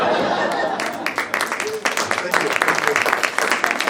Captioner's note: audience laughs; audience applauds